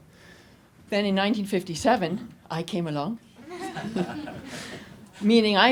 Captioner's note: audience laughs